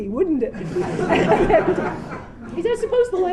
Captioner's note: laughter